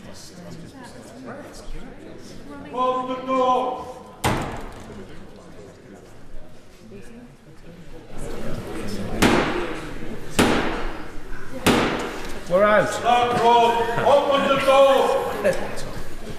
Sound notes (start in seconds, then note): 6.8 Black Rod knocks three times